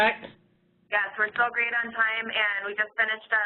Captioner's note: voiceover